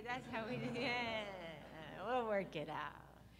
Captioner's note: audience laughs